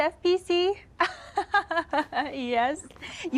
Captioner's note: laughs